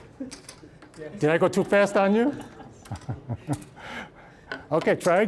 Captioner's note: all chuckling